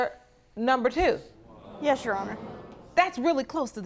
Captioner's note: audience exclaiming